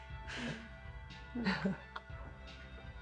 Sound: Mickey, deep sigh; Val chuckles

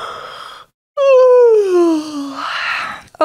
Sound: yawn

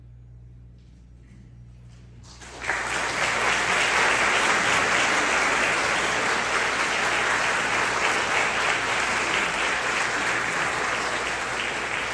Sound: applause

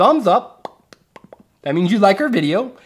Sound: popping

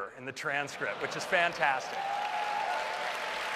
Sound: applause

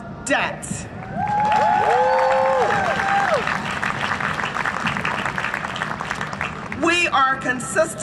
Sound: cheering and Applause

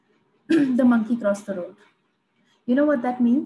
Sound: clears throat

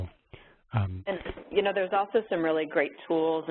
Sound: voiceover

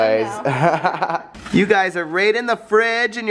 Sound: parents laugh

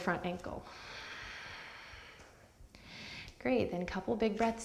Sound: deep breath

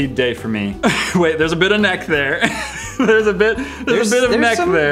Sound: giggles

